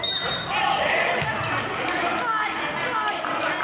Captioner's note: whistling